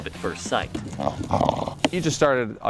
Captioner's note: crunching